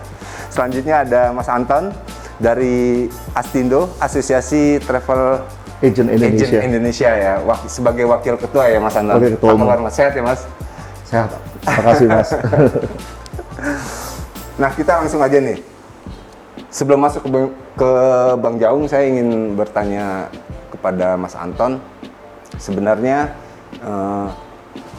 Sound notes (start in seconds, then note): 11.6 laughs